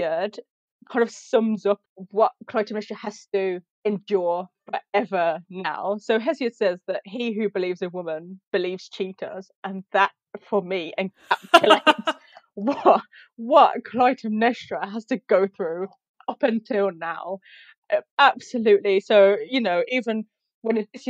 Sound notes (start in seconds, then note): 11.3 laughs